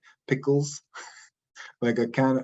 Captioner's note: chuckles